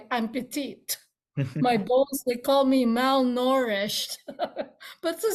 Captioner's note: laughs